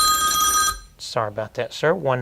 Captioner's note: phone rings